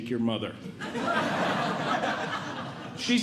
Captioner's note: audience Laughing